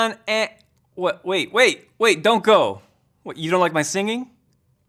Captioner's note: speaking normally